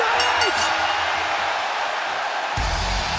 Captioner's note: bell ringing